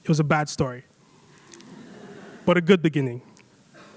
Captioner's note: audience laughs